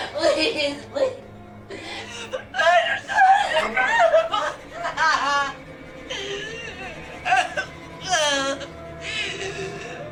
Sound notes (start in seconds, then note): 2.5 Tracy faintly speaking and crying; 7.2 Tracy choking